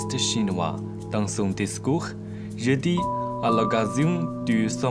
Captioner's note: French